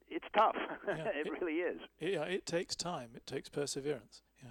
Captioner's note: both laugh